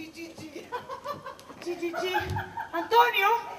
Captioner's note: γέλιο